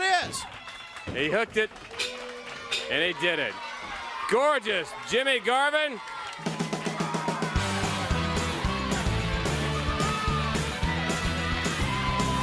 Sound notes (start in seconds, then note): 3.5 crowd cheering